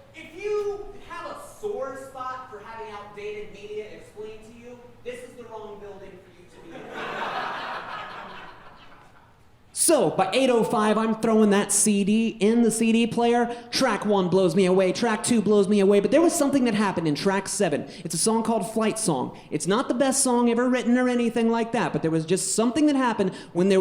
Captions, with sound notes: If you have a sore spot for having outdated media explained to you, this is the wrong building for you to be in. (audience laughing) So by 8:05 I'm throwin' that CD in the CD player. Track one blows me away. Track two blows me away. But there was something that happened in track seven. It's a song called "Flight Song." It's not the best song ever written or anything like that, but there was just something that happened